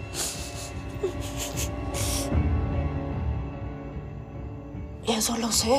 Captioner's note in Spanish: Sollozo